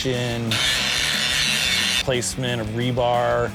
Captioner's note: grinding sounds